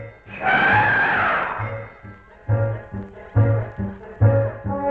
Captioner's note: Pete roaring; Rosina roaring